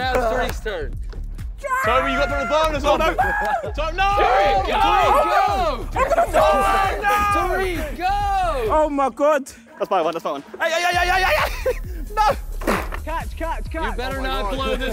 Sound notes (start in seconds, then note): 1.7 indistinct chattering; 1.7 yelling; 6.9 contestants yelling; 12.6 bike slamming